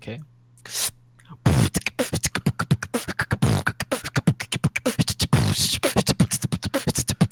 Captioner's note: beatboxes